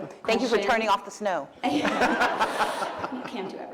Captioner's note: laughter